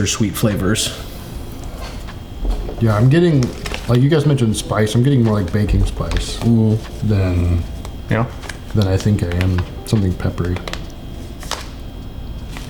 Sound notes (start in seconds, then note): none